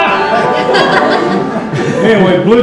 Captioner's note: laughter